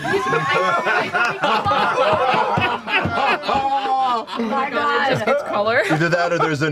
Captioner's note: laughter